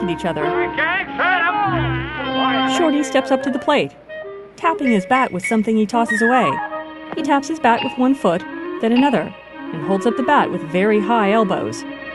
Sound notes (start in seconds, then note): 3.7 bells accentuate actions; 11.8 drumroll